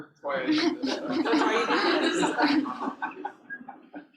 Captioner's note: laughter